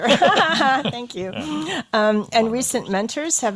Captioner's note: laughs